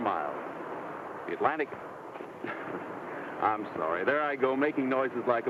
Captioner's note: laughs